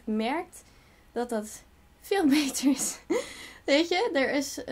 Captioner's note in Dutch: lacht